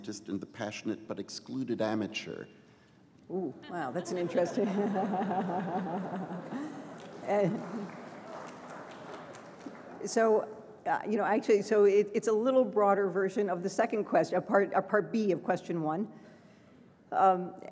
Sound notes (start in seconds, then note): 4.0 laughter; 5.8 applause